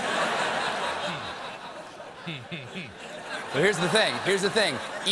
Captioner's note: laughter